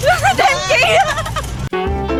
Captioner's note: laughs